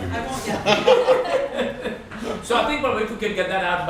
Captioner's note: laughter